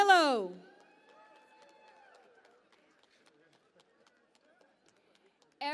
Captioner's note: cheering and Applause